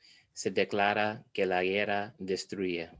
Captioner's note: foreign language